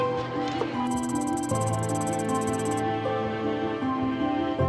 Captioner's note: soft music; keyboard tapping